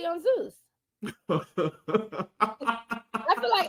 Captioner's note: laughing